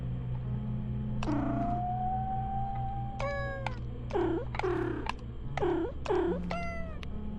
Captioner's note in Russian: Котя мяукает, пока Ния воет на фоне